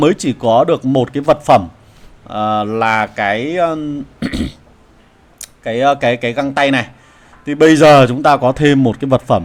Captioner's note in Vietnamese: hắng giọng